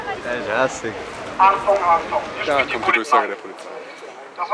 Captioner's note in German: Lautsprecher